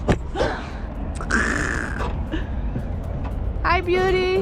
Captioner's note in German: lacht